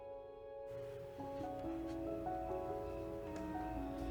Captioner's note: crickets chirp